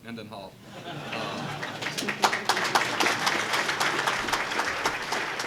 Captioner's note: applause